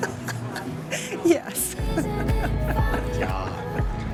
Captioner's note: laughing